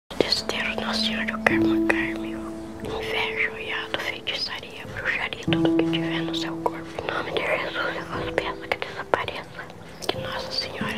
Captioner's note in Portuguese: sussurros de uma oração